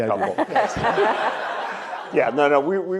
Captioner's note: audience laughs